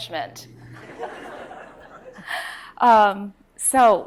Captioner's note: audience chuckles